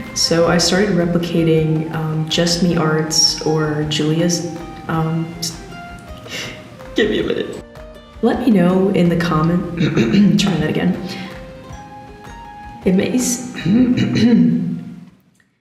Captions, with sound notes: ... so I started replicating, uhm, jussmeart's or Julia's... uhm... (strained) give me a minute- lEt me know, in the comm- (clears throat)... trying that again. (strained) it mAy s- (clears throat)